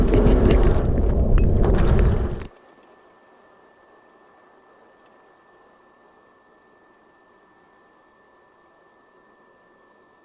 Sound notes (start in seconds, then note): 2.2 bugs buzzing